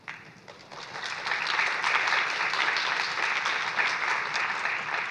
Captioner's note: applause